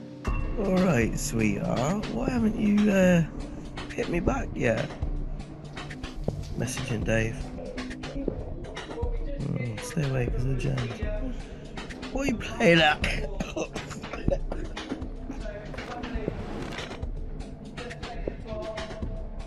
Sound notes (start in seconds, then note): 0.0 whispering; 12.2 coughing fit